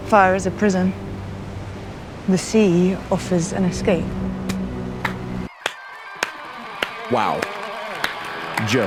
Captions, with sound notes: Fire is a prison. The sea offers an escape. (claps) Wow,